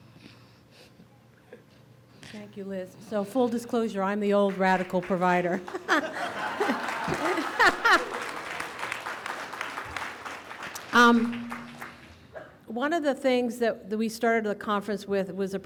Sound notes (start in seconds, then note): 6.1 audience claps